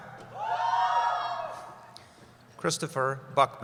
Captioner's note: cheering